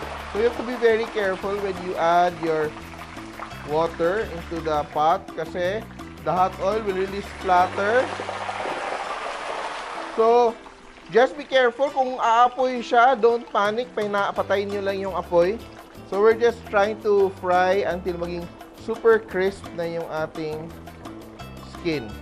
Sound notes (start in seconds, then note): 0.0 oil sizzling; 8.4 oil sizzling